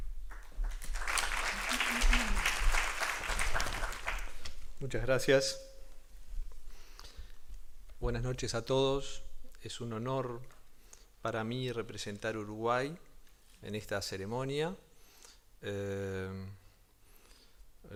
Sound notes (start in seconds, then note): 0.2 applause; 11.7 speaking spanish